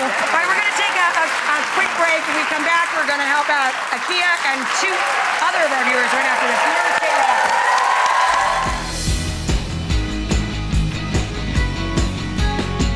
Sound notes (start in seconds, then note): 0.3 audience clapping; 5.7 audience cheering; 8.4 upbeat music